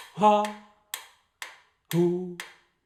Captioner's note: ticking sounds